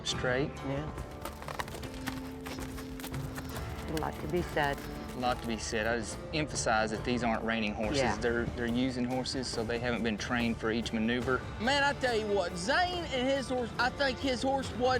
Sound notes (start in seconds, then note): 0.8 hoof beats